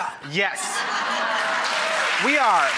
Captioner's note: crowd laughs and gives applause